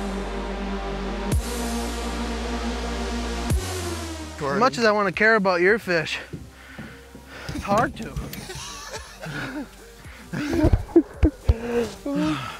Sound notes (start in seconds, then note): 0.0 music gets louder; 8.1 laughing